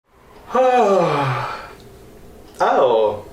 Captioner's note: yawn